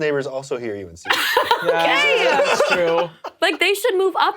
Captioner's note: laughs